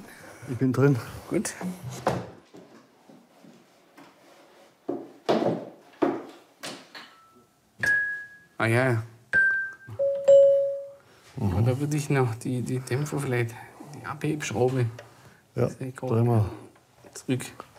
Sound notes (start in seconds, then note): 7.6 bright sounds